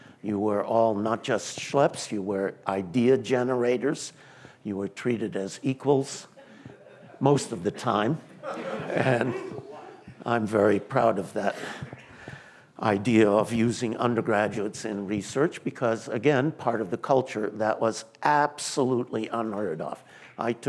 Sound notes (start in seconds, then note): 8.3 laughter